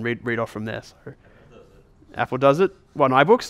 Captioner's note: voiceover